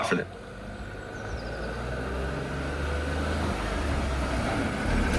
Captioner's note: car rumbling